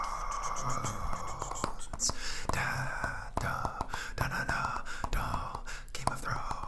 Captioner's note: tapping to beat of Game of Thrones music